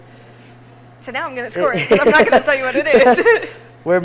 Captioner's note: students laughing